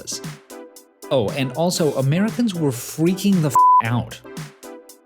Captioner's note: beep